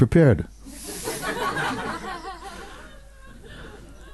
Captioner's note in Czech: smích